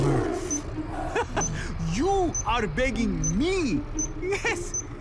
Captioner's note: laughs